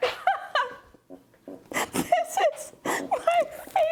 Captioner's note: laughing